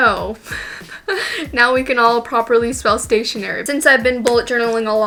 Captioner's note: laughing